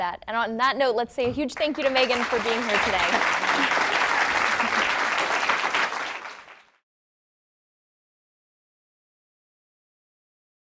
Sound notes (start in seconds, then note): 3.2 applause